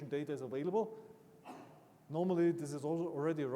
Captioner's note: attendee coughing